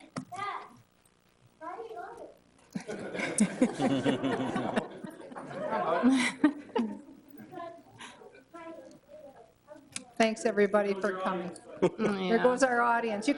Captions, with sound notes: Dad, why you got it? (everybody laughing) Thanks, everybody, for coming, there goes our audience.